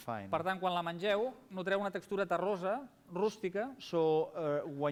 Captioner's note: non-english speech